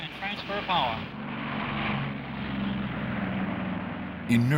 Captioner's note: engine rumbling